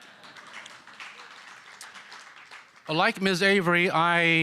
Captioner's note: applause